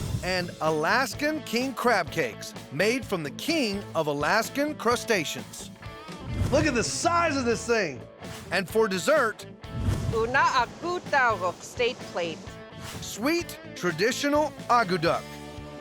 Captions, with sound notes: AND ALASKAN KING CRAB CAKES, MADE FROM THE KING OF ALASKAN CRUSTACEANS. LOOK AT THE SIZE OF THIS THING! AND FOR DESSERT... [SPEAKING YUPIK] SWEET, TRADITIONAL AKUTAQ.